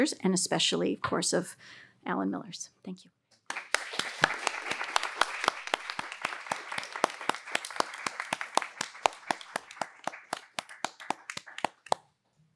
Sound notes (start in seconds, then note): 3.4 audience applauds; 3.4 panelists applaud